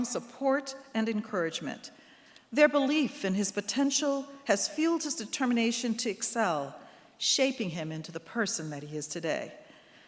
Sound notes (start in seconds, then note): none